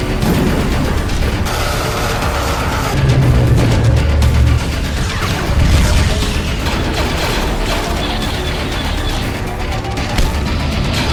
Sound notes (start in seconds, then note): 0.0 intense music; 0.0 shooting